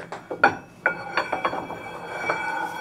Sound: metallic noise

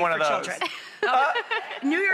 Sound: laughs

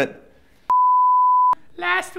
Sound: beep

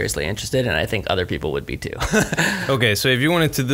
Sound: laughs

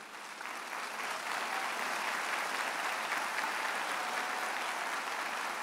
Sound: audience applauds

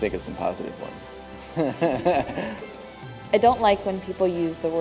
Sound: laughter

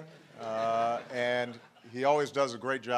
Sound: laughter

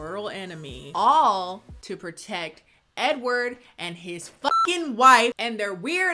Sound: beep

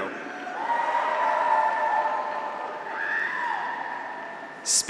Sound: graduates cheer; audience applauds

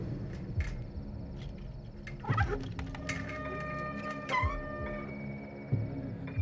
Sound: wheelchair moving

